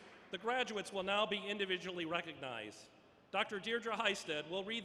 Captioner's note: applause